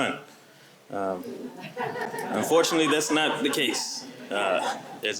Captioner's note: laughter